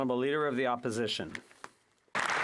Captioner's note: some Applause